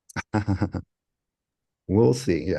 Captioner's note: laugh